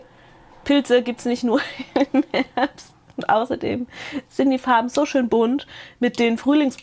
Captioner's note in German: Gelächter